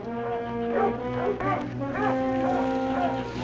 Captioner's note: dogs barking